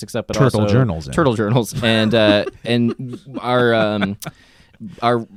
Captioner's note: chuckles